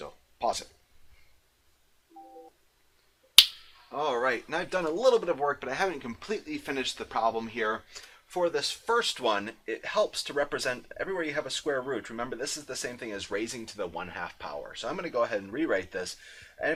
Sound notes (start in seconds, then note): 3.4 snaps fingers